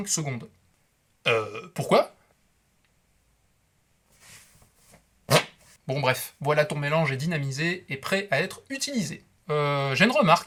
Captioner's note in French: bruit de pet sous le bras